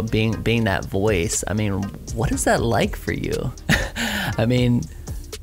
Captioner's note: chuckles